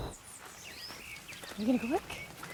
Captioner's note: birds chirping